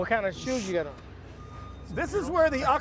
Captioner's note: none